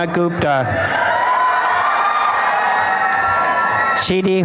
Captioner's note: applause and cheering